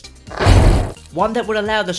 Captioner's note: slam